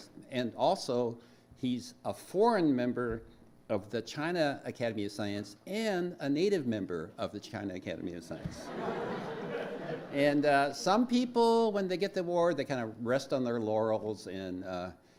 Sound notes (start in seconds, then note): 8.6 laughs